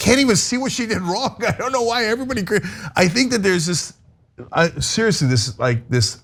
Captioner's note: laugh